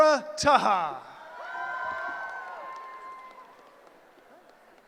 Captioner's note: cheering